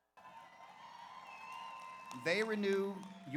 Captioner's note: audience applauds; audience cheers